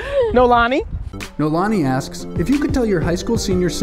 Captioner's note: voiceover